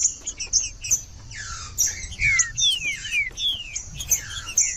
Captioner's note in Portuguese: trinca ferro cantando